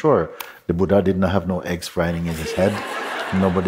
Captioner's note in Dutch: Gelach